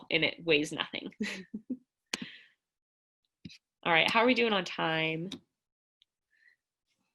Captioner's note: laughter